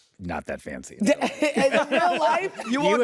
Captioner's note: laughs